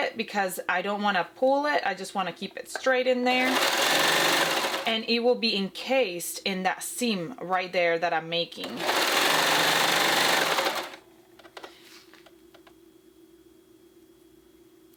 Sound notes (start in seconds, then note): 3.7 machine clanking; 10.2 machine clanking